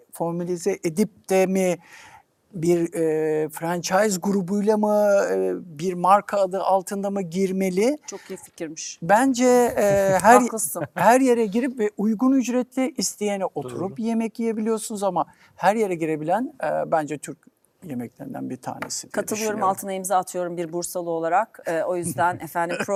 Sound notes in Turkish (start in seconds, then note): 9.8 kahkaha